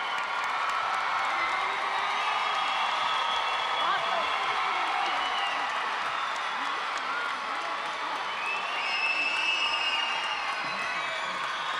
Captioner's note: applause